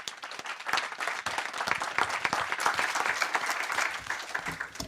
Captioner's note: audience clapping